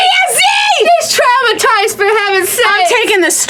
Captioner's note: pat